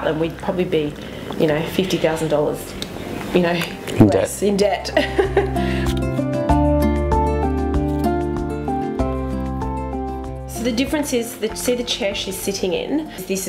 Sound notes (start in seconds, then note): 4.9 laughs; 5.8 uplifting music